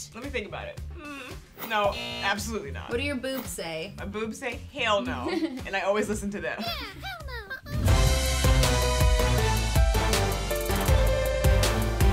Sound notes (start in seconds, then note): 5.2 laughing; 6.9 high-Pitched Little Voices